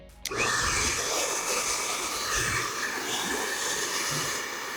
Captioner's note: hair dryer blowing